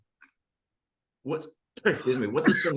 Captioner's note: hiccups